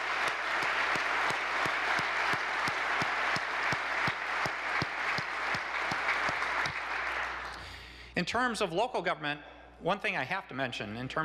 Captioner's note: applause